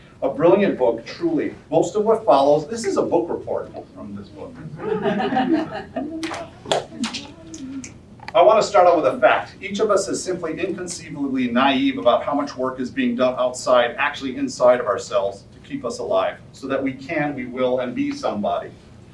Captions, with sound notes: A brilliant book, truly, most of what follows, this is a book report from this book. (audience laughter) I want to start out with a fact. Each of us is simply, inconceivably naïve about how much work is being done outside, actually inside of ourselves, to keep us alive, so that we can, we will, and be some body.